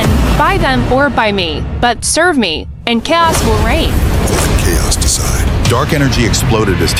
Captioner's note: snarl